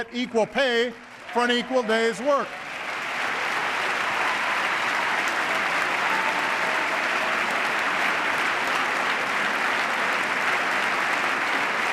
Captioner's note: applause